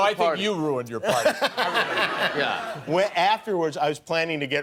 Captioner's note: laughter